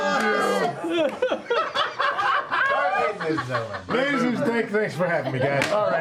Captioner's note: laughing